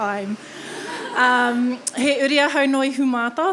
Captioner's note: audience laughing